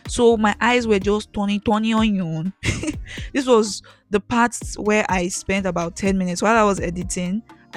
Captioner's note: laughs